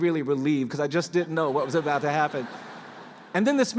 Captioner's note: laughter